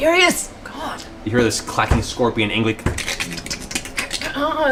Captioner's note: scorpion sounds